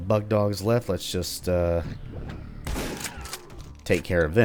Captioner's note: BOOM, shick-shick